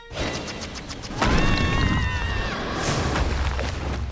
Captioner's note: screaming